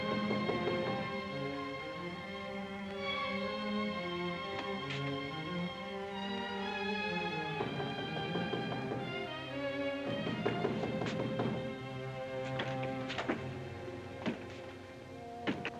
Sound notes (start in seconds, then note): 0.1 knocking on door; 0.2 suspenseful music; 8.0 knocking on door; 8.0 suspenseful music